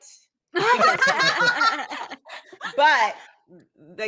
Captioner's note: all laughing